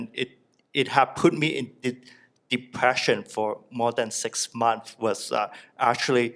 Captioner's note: none